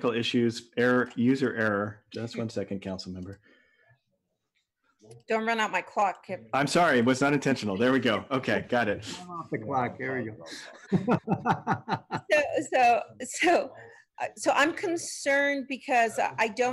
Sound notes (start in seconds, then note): 7.7 laughter